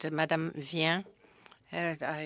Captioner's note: speaking French